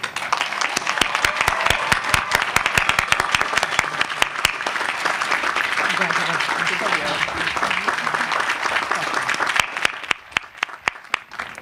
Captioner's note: applause